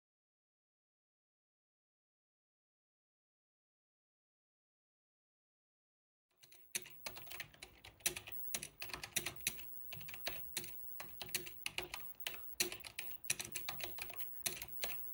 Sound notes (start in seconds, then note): 6.4 keyboard clicking